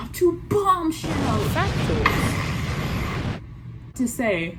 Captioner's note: screaming and explosion noise